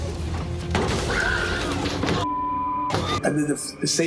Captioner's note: neighbors screaming